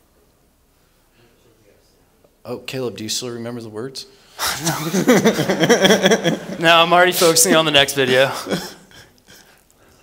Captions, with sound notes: Oh, Caleb, do you still remember the words? No. [LAUGHS] No, I'm already focusing on the next video.